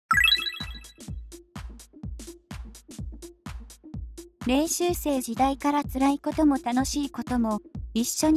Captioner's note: rejoicing